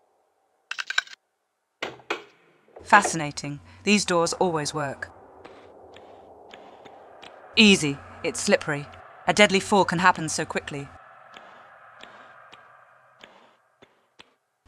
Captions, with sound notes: *key sound* Fascinating, these doors always work. Easy, it's slippery. A deadly fall can happen so quickly.